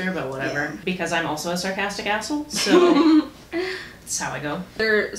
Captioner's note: laughter